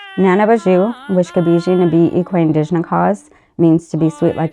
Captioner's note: speaking a foreign language